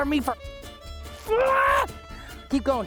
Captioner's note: yelling